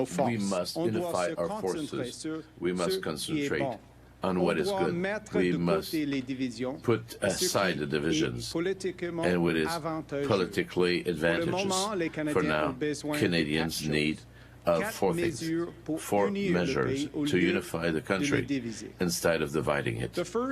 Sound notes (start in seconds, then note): 3.5 speaking French